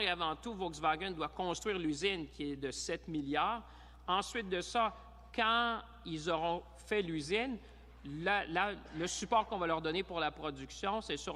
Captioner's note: speaking in french